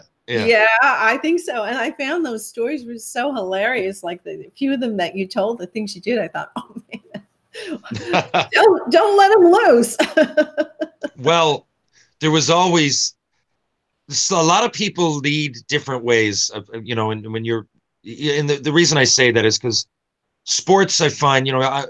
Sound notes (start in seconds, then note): 7.6 laughing; 10.2 laughing